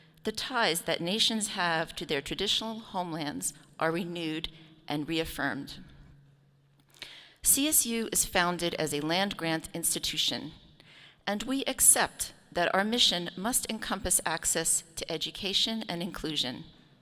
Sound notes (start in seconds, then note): none